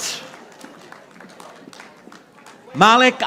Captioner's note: audience applauding